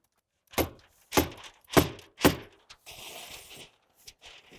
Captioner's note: tool knocking